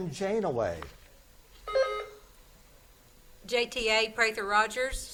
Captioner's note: buzzer beeps